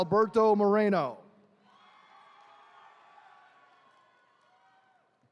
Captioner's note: attendees cheering